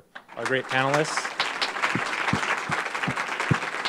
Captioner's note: applause